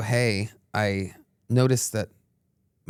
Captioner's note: none